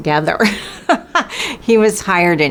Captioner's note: chuckles